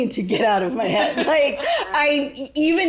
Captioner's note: all laugh